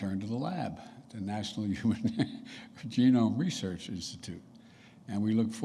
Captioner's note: laughs